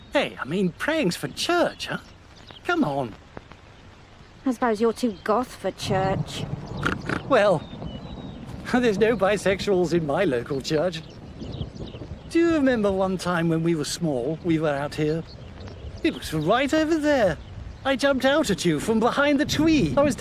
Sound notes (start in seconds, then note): 6.8 Johnny snorting